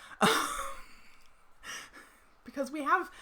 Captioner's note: laughs